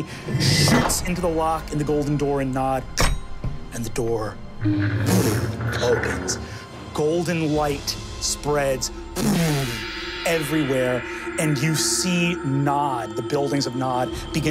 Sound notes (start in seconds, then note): 3.0 door latch clinks open